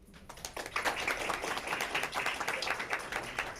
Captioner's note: crowd applauding